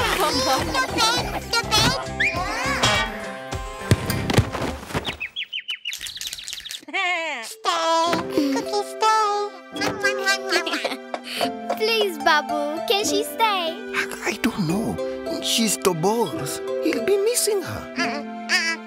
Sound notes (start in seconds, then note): 4.8 birds chirping; 5.2 bleating; 10.3 giggling